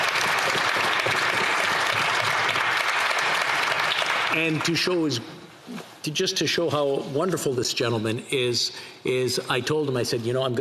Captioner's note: applause